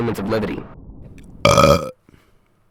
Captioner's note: burp